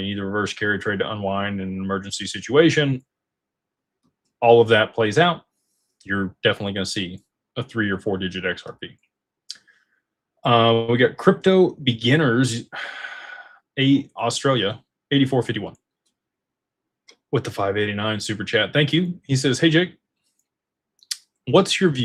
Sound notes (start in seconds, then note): 12.7 sighs and gasps